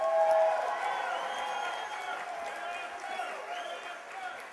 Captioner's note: cheers and applause